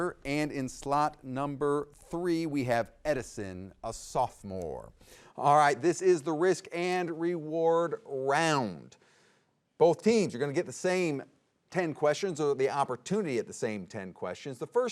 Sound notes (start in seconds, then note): none